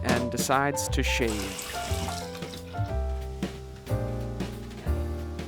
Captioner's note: tap water running